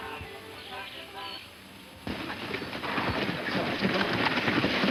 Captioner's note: hooves clopping